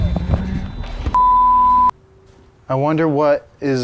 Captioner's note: beep